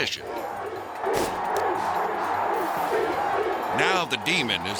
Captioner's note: crowd cheering